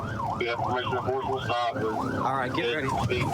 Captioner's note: warning sirens